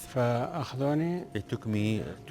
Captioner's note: man speaks in foreign language